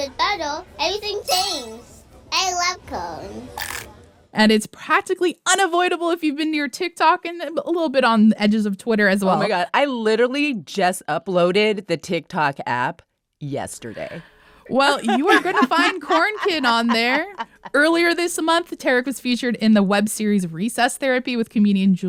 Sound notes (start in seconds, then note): 14.8 laughter